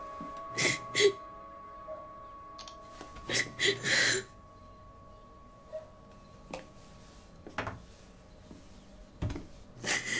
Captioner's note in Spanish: Sollozos